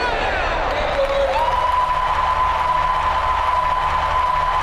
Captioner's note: audience applauding